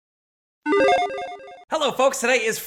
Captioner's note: playful beep ringing